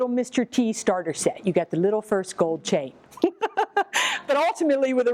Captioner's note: laughs